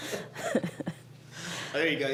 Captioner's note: laughter